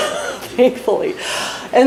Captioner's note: laughs